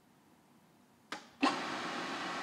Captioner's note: machine starts